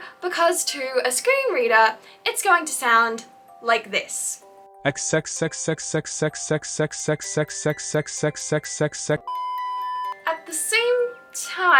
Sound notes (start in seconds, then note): 4.6 male Screen-reader Voice